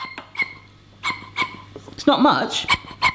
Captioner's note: air pumping